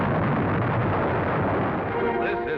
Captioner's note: loud rumbling